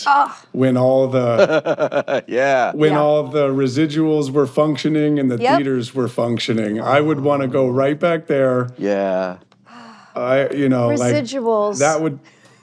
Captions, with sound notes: -...when all the... -(LAUGHING) Yeah. ...when all the residuals were functioning and the theaters were functioning. I would want to go right back there. -Yeah. -(SIGHS) You know, like... -Residuals. -That would...